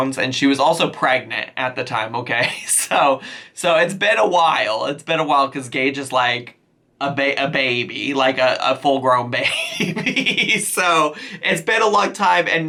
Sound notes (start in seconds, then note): 9.4 laughs